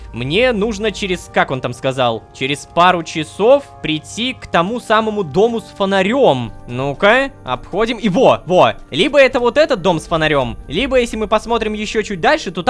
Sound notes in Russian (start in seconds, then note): none